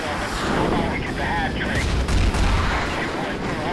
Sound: explosions booming

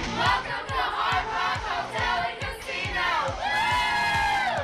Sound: all cheer

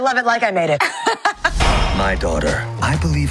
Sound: laughing

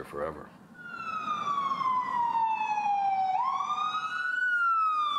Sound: firetruck siren

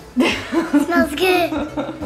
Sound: laughing

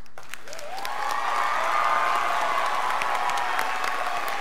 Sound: crowd applauding

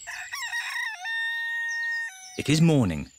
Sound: rooster crows

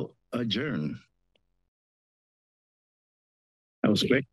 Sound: silence

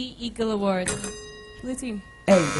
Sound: bell

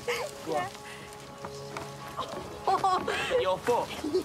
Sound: laughs

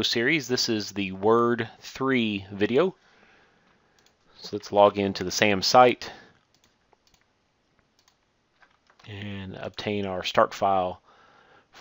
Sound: clicking

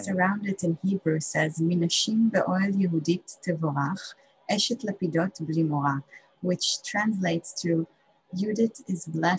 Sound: speaking hebrew

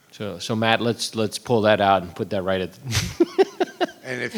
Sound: laughs

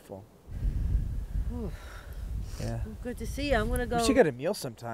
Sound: shivering

